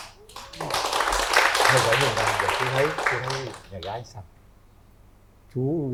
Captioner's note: applause